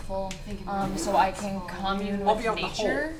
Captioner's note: fart sounds